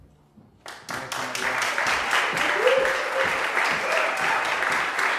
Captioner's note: applause